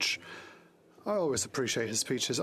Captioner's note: speaking French